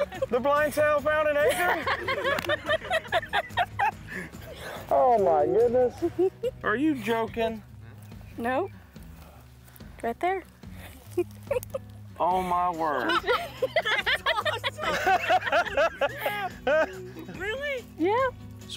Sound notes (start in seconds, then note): 0.0 laughing; 1.2 all laughing; 5.6 giggling; 11.1 giggling; 12.8 all laughing; 14.7 laughing